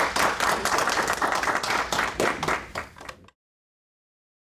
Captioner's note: applause